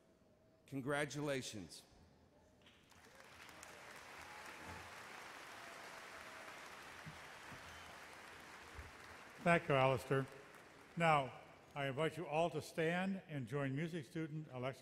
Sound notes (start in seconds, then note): 2.7 applause; 9.6 voiceover